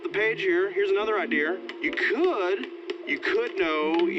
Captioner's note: popcorn popping